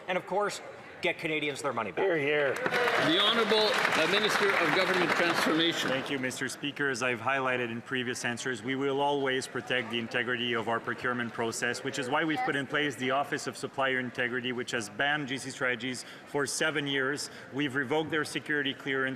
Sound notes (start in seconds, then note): 6.7 some Applause